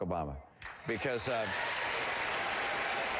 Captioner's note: applause